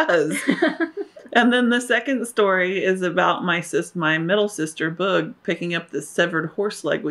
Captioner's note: laughter